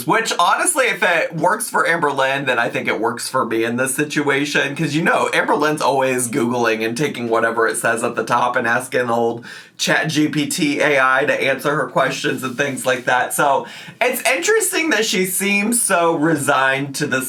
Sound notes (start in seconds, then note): none